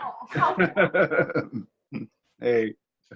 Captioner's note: laughs